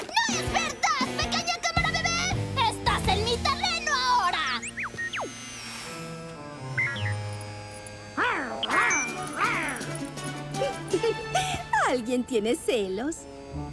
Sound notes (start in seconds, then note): 8.2 snarling; 10.3 laugh